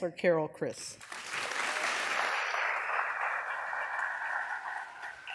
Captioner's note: audience applause